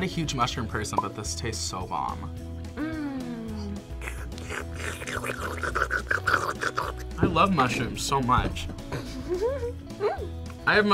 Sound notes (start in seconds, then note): 3.9 slurps; 8.9 laughs